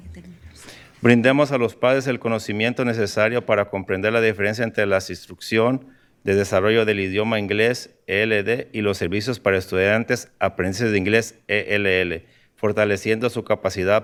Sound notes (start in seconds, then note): 3.4 speaking in spanish